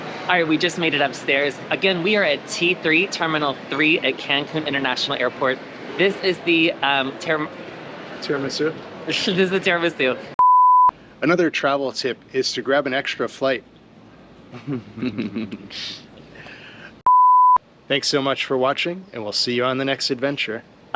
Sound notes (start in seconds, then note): 14.5 laughs